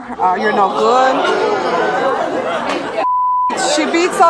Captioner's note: audience hollering